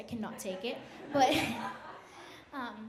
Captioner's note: audience laughs